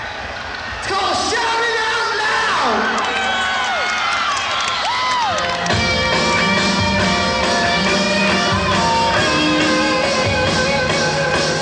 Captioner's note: cheering